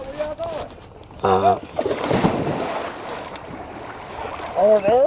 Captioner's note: water splashing